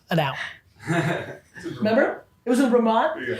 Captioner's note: crew laughing